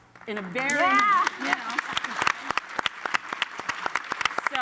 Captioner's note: applause